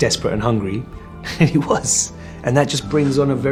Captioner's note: chuckles